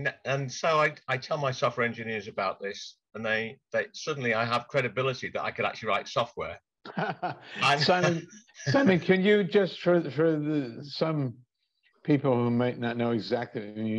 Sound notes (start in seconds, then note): 6.9 laughs